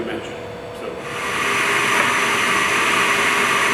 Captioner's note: jointer saw buzzing